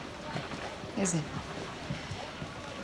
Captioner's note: none